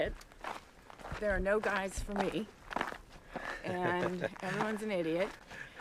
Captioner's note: laughs